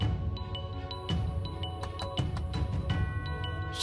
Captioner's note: knocking